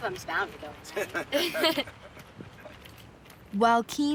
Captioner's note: both laughing